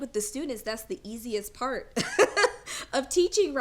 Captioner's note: laughs